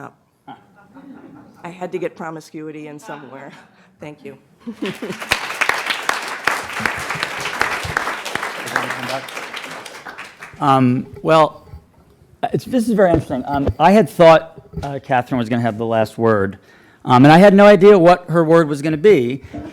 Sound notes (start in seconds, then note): 0.3 laughter; 4.7 applause